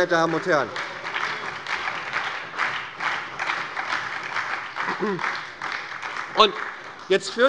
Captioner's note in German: Beifall bei der SPD